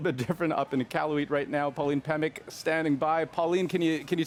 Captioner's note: laughter